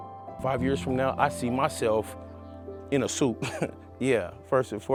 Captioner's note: laughs